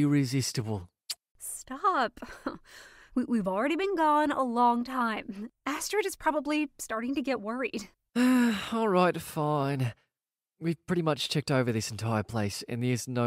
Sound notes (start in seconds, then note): 8.1 sighs